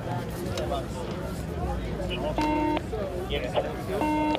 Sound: radio chatter

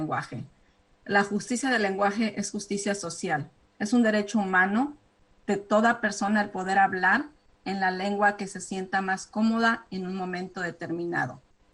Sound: speaking spanish

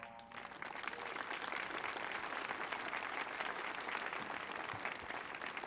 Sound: applause

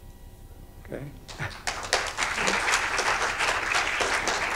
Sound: audience applauding

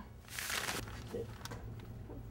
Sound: paper shuffling

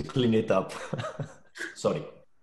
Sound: laughs

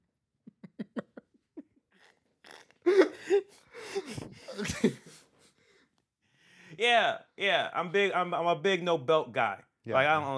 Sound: laughing

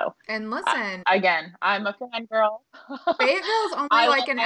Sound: laughing

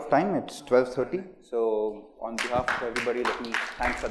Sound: applause

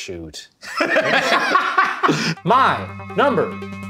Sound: laughing

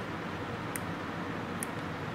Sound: clipping sounds

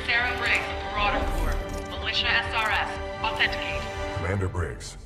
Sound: radio

